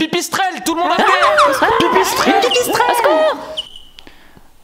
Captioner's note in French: Cris de panique